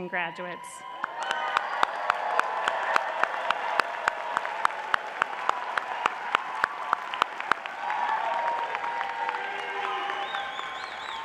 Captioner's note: audience applauding